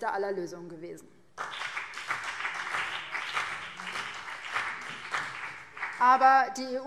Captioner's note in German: Beifall BÜNDNIS 90/DIE GRÜNEN und vereinzelt CDU